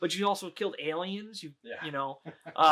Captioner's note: laughing